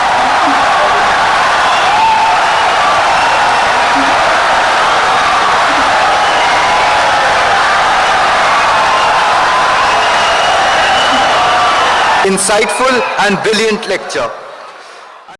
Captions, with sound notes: I’m Philip Emeagwali. [Wild applause and cheering for 17 seconds] Insightful and brilliant lecture